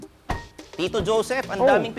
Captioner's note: door thuds